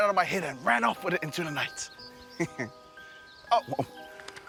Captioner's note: chuckles